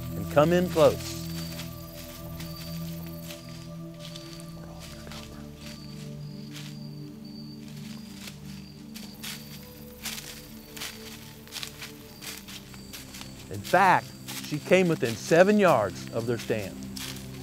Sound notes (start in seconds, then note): 4.2 whispering